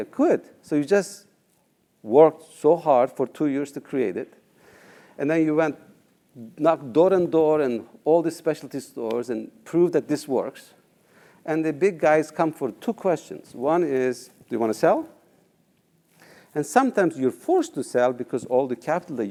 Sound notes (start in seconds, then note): none